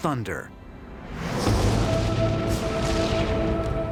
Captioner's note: lightning crashes